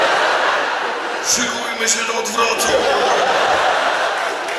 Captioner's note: audience laughs; applause